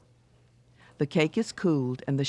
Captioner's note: voiceover